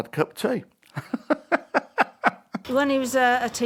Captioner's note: laughing